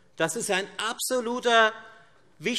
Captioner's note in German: none